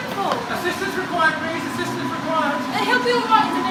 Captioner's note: on walkie-talkie